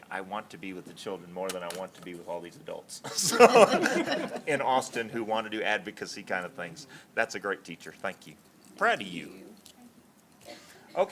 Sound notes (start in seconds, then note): 3.0 laughter